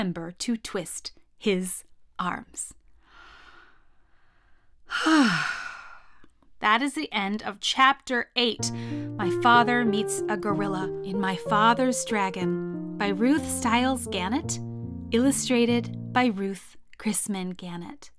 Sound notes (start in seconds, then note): 4.8 sigh